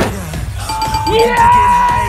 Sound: ding-ding-ding-ding

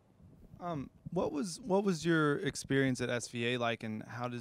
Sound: voiceover

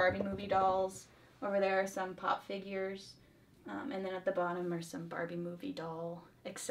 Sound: none

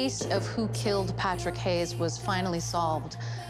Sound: inhales sharply

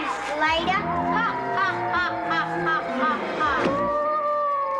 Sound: child laughing

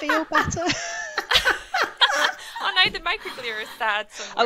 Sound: presenters laugh

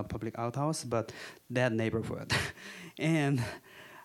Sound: chuckling

